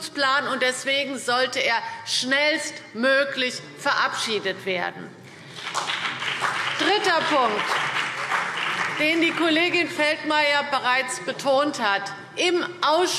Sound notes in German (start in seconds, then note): 5.3 Beifall BÜNDNIS 90/DIE GRÜNEN und vereinzelt CDU